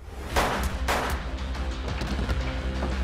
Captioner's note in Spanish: Disparos